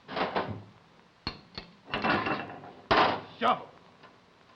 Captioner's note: metal clanking